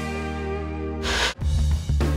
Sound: Static

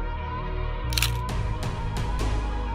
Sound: shutter snaps; dramatic music

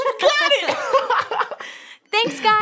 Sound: laughing

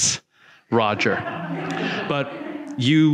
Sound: audience laughing

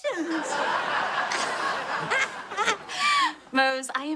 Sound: M'Dear cackles

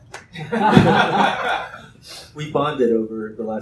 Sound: laughter

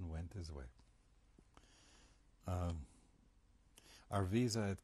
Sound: pauses for 3 seconds

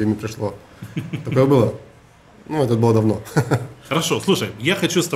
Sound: chuckles

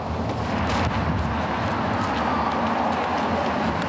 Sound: street noise

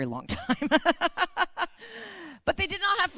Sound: laughter

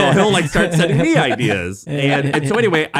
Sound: laughing

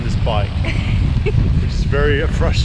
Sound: laughing

